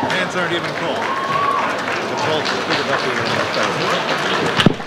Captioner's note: audience applauds